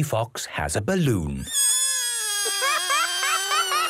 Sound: balloon air squealing

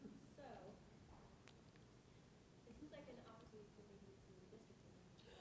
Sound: board member faintly speaking

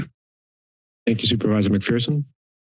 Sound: silence

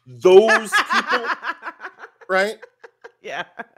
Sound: laughs

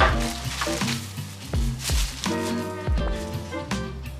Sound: paper rustling

